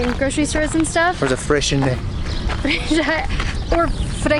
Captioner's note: pronounced with a French accent